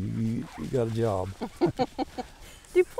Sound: laughing

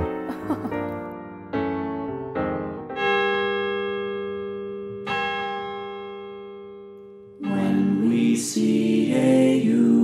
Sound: poised piano music; chuckle; bell tolling

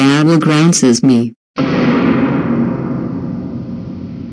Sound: scary Sound

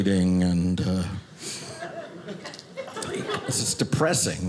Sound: audience laughing

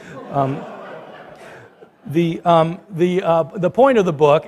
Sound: laughter

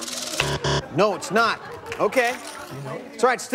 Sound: buzzer

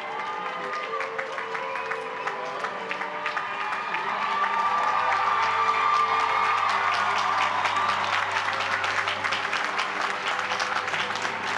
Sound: applause

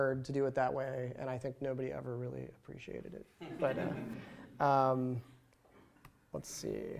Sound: laughter

